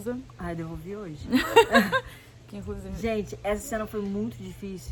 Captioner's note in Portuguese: laughing